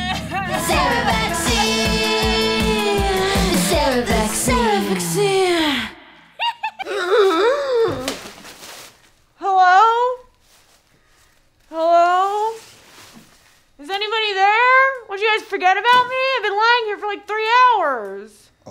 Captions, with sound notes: - The Sarah vaccine, the Sarah vaccine! (gasps) - Hello? Hello? Is anybody there? What, you guys forget about me? I've been lying here for like three hours.